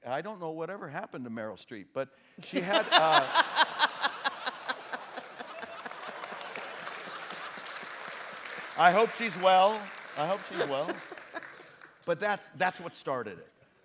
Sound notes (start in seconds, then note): 2.4 laughter; 5.9 applause